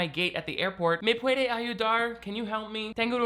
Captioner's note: speaks Spanish